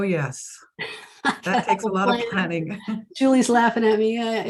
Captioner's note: laughs